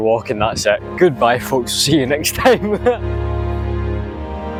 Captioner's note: laughter